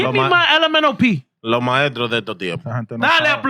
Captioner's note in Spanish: Hablando en idioma extranjero